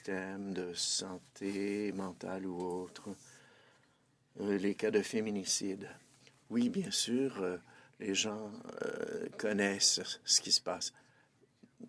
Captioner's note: speaking French